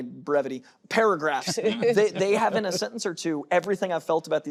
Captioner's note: laughter